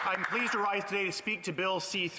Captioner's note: applause